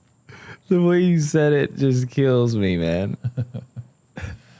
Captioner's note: laughs